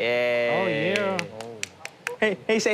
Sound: fisherman clapping

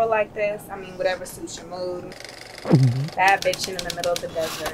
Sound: gulps

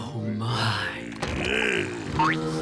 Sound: grunting

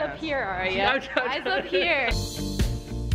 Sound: laughing; upbeat music

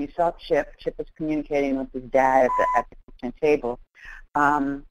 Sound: static audio

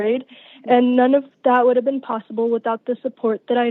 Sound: none

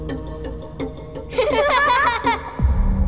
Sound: laughing

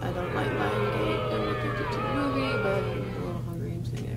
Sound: sound effects

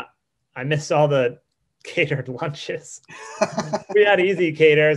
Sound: laughs

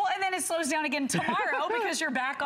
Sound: laughter

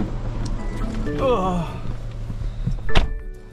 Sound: old man sound

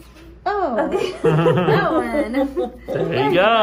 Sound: laughs

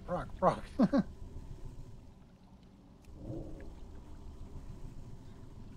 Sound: laughs

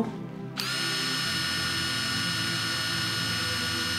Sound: drill whirring

